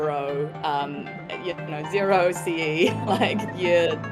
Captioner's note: chuckles